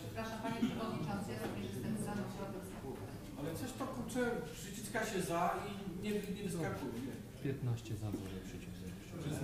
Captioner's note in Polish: głosy z sali